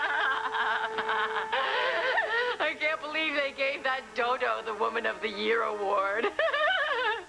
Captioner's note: allison laughs